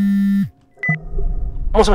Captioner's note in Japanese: 📲 着信音：ブー！ブー！; 通話ボタン音：ピッ